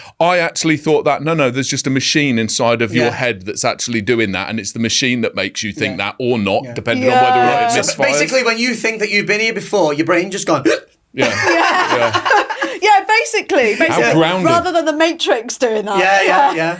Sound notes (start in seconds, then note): 10.6 hiccups; 11.2 laughs